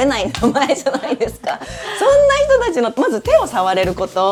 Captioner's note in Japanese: 笑い